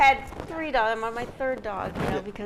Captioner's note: mic rumbling